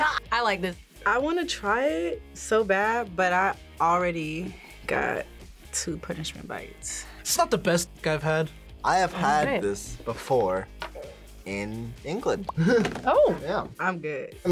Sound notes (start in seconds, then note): 12.5 chuckles